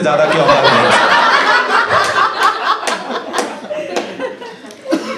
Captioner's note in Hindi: हँसना